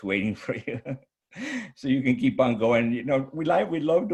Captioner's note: chuckles